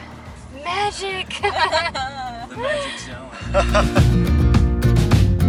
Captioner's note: laughter